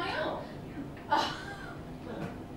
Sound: laughter

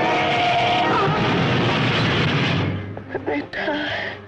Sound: car crashes

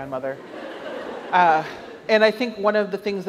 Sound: audience laughs

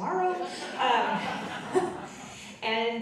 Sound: audience laughing

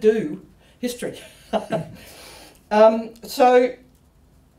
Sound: laughs

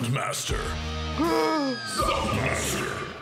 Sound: gasps

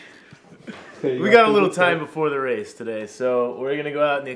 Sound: laughs

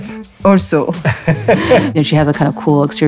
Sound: laughing

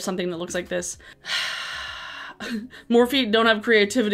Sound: sighs

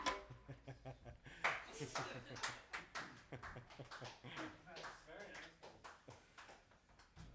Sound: chuckles and claps

